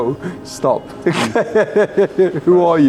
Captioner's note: laughs